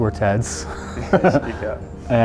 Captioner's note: laughing